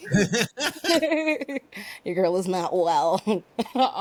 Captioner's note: laughing